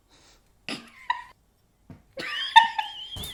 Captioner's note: both laugh